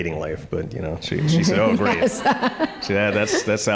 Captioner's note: audience chuckling